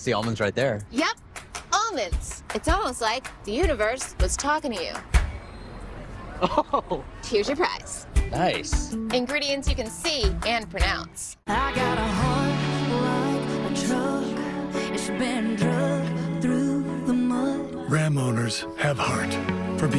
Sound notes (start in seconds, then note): 6.4 man laughing